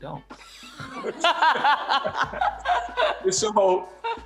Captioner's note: laughter